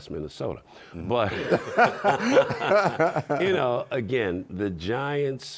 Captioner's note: laughing